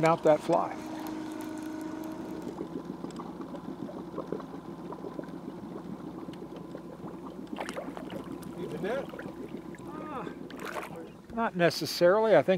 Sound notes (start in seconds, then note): 3.0 boat engine idling; 5.6 fish splashing